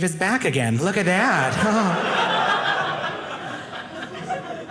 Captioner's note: audience laughing